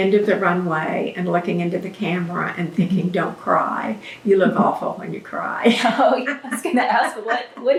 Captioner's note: laughter